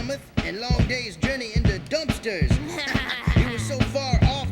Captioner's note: laughs